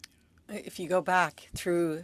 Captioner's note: speaking French